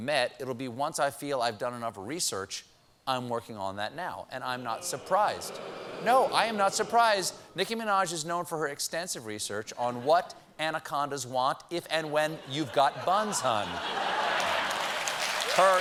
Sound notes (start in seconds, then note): 4.5 booing; 13.8 applause